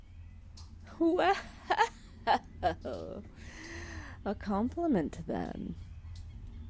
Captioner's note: laughing